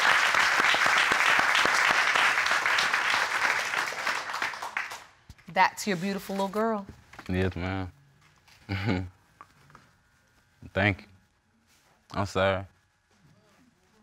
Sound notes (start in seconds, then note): 8.7 chuckles